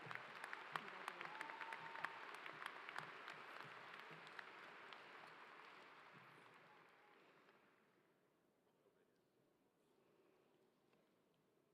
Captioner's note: applause